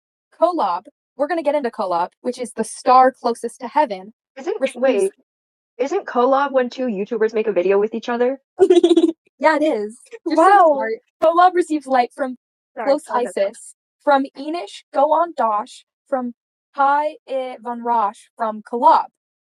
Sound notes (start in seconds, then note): 8.6 giggles